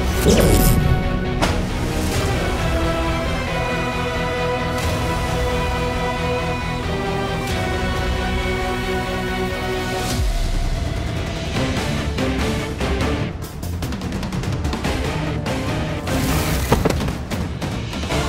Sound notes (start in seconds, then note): 0.1 whirring sound; 1.8 tense music plays; 11.5 suspenseful music plays; 16.7 thud